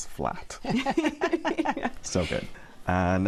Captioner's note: laughter